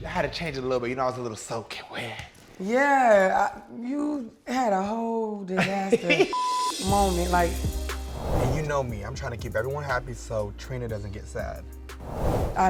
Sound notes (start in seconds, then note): 5.4 laughs; 6.3 beep